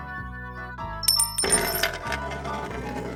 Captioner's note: tink from a brass coin